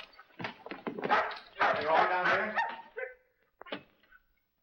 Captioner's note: dog barking